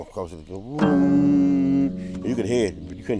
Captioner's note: humming